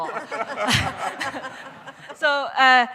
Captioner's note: laughter